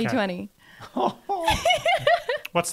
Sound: laughing

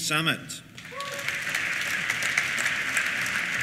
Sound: applause; cheers

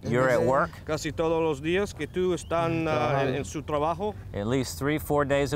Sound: non-english speech

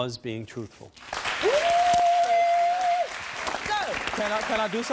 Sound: audience applause

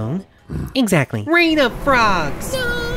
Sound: pauses, then grunts

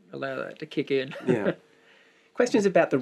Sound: chuckles

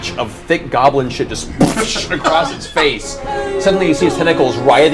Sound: splashes

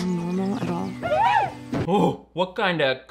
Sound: boys wolf calling

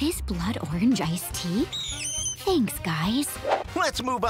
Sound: bat squeaking

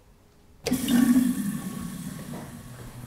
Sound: flush

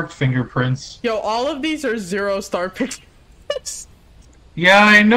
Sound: laughs

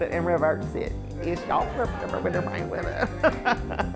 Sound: mumbling; laughs

